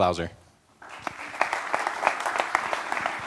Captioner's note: applause